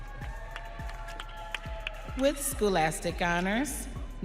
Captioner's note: audience cheering